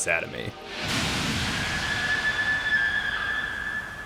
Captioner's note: screams